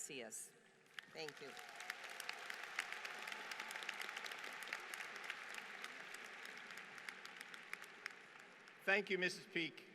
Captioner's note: applause